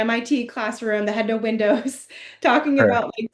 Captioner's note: laughs